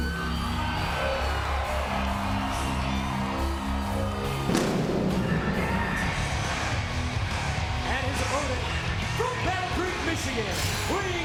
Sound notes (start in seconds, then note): 0.0 crowd cheering; 0.2 energetic rock music; 4.4 fireworks blasting